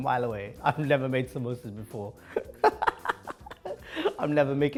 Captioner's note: laughs